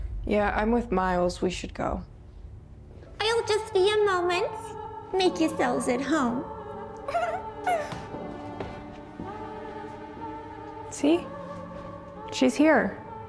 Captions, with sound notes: - Yeah, I'm with Miles. We should go. - I'll just be a moment. Make yourselves at home. (laughs) (eerie classical music) - See? She's here.